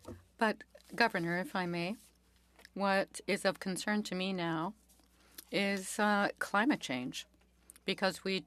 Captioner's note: speaking French